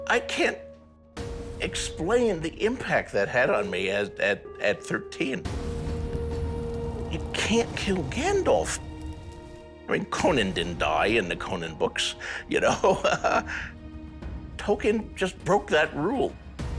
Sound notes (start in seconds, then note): 12.6 laughs